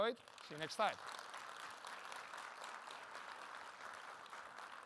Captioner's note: audience claps